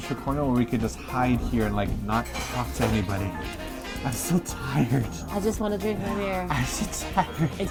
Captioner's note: tuts